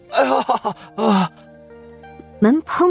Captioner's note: laughs